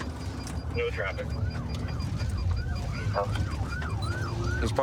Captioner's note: sirens wailing